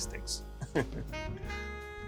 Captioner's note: chuckling; jazz music